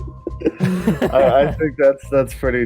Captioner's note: both laugh